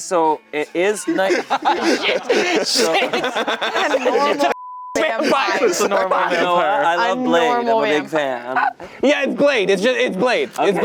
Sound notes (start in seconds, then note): 0.9 everyone laughing; 4.5 beep